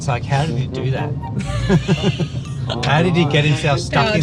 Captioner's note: laughing